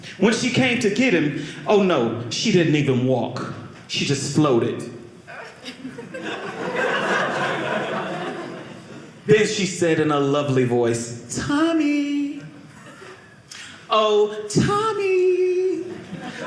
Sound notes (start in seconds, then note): 5.3 audience laughing